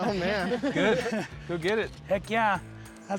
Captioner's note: laughter